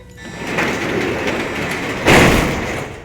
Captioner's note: doors power shut